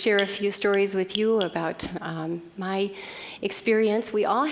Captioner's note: clicking noise